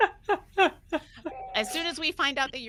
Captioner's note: person laughing